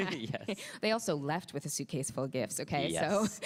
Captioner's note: laughs